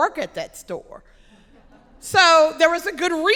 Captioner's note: audience laughing